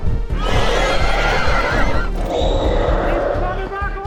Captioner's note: loud roars